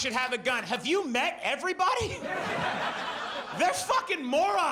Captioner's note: audience laughs